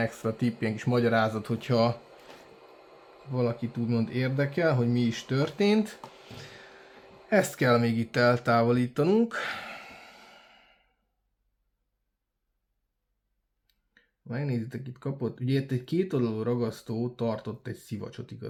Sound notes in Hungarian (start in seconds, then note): 9.3 sóhajtás